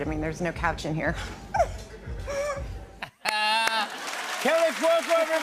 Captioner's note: laughs